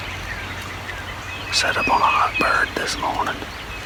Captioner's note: whispering